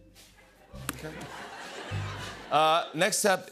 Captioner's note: laughter